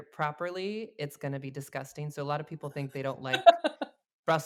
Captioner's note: laughs